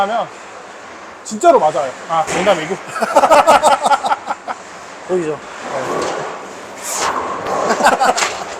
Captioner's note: laughs